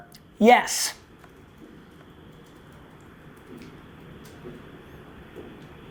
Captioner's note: silence